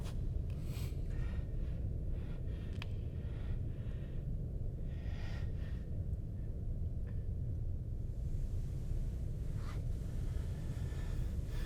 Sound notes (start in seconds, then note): 4.1 heavy breathing